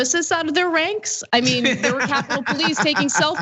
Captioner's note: laugh